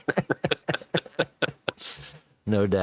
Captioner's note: both laughing